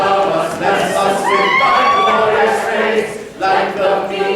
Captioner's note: more shrieking